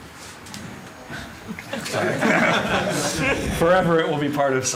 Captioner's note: laughter